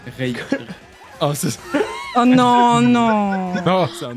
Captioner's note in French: rires